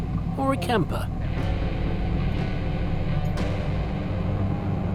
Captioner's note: engine rumbles